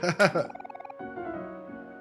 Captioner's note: laughs